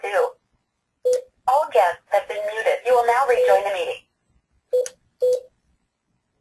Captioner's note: series of beeps